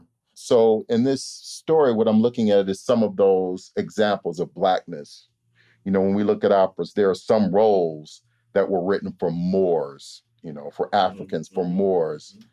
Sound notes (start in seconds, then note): none